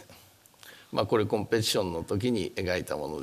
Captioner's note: speaking japanese